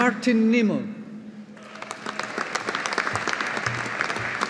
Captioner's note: audience applauding